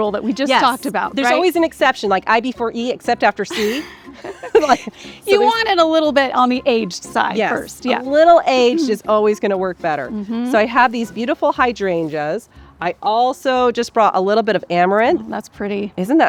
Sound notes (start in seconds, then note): 3.5 both laughing